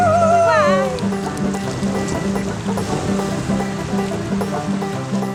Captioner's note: howling like a wolf